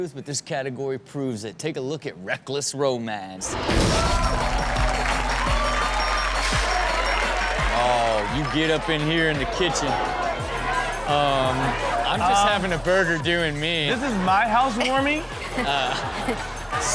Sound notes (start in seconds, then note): 3.5 intense music plays; 3.5 audience cheers; 14.6 Chanel and audience laugh